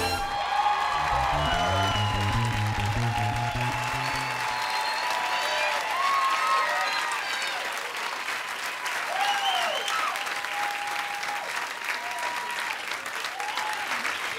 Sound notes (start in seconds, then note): 0.1 cheering and applause; 8.6 cheering continues